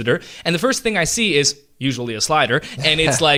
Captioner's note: laughs